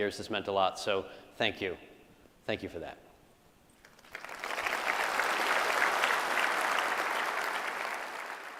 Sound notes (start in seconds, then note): 3.8 audience applauds